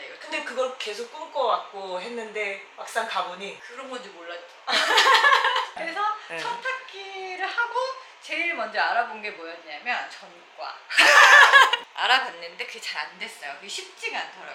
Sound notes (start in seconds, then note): 10.9 laughing